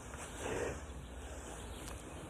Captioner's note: laughs